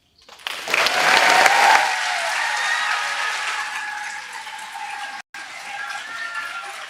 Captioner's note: audience applauding